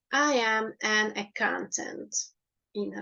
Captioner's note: in Hungarian